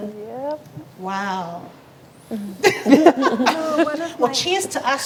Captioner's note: laughs